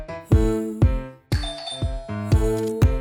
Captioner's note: ringtone; lively music